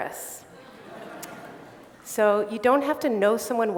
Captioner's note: laughter